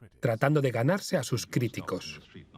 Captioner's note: voiceover